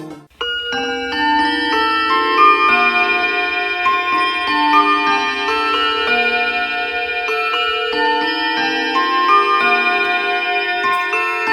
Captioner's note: clock chiming